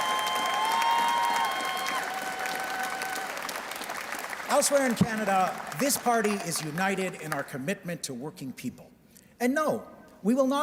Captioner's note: cheers and Applause